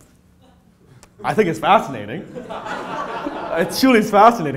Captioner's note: laughter